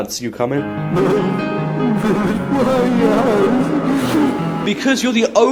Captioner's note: sniff